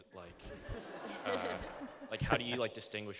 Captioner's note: laughter